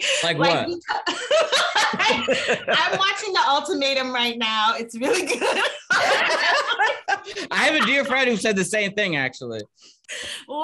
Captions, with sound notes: - Like what? (laughing) - I'm watching The Ultimatum right now. It's really good. - I have a dear friend who said the same thing, actually.